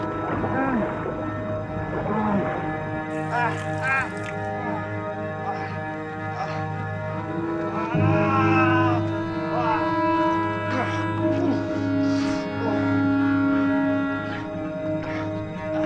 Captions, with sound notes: So do yo want to look more like Heather Locklear, or one of them girls from the Young and the Restless? - I never watched that program. But Heather Locklear's real pretty. - Heather it is. (chuckling)